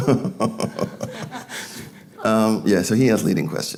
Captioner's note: laughing